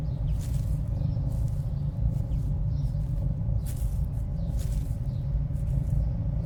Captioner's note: birds chirping; shuffling footsteps